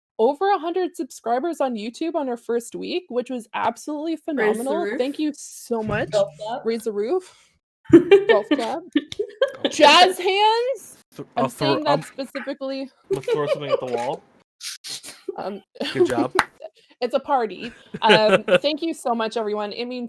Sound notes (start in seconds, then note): 11.4 laughing; 17.6 laughter